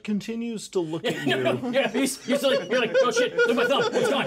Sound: laughs; speaker laughs

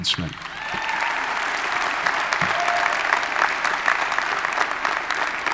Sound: audience applauding

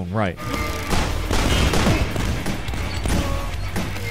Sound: gunshots

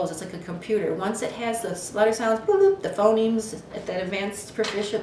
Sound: mimics computer beeping

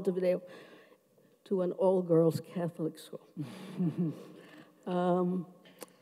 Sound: chuckles

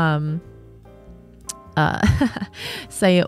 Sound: chuckles

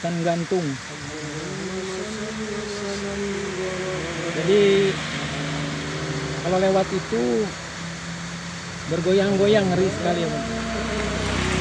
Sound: fearful

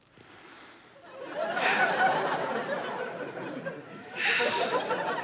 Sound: audience laughter; sighs

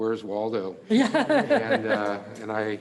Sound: laughs

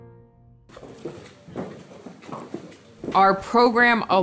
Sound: hooves thudding

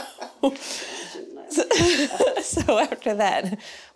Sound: laughing

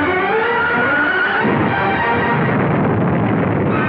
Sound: car crush

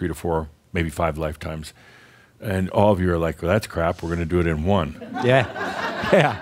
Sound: laughter

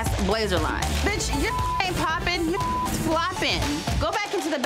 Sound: beep

